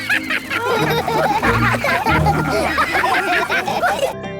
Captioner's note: all laugh